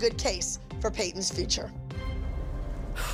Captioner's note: exhales